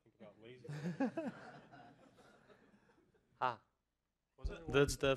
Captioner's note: laughs